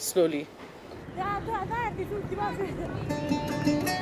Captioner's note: soccer players calling out